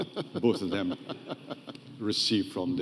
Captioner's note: laughing